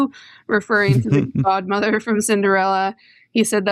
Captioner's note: laughter